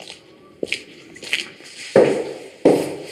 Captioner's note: walking noise